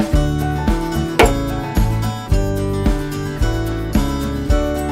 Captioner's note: hammer bangs